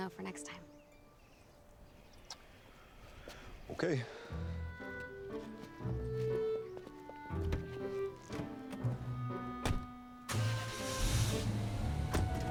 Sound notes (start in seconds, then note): 10.3 starts engine